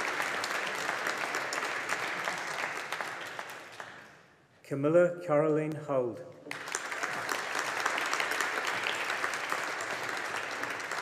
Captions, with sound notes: Camilla Karoline Hald. (AUDIENCE APPLAUDING)